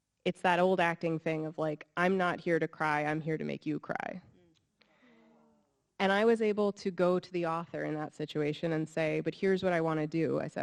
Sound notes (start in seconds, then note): 5.3 audience sighs